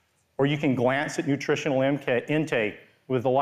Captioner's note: none